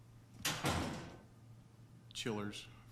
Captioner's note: door slams